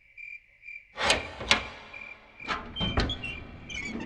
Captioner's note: door Opens